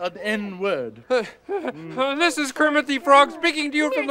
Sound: laughs nervously

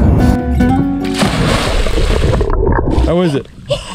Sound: water splashes

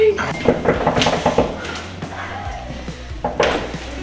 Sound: door knocking

